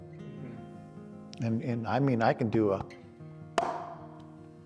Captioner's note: hands popping